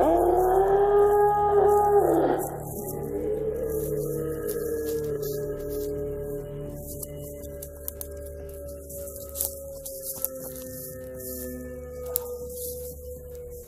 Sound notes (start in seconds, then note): 1.8 howl; 7.3 long howl